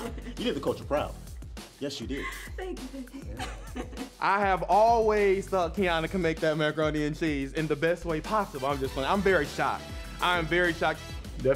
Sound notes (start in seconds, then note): 0.0 laughs; 2.2 laughs